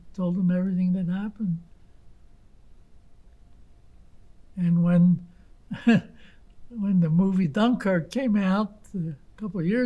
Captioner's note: laughing